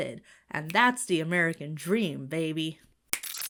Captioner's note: Bill snaps fingers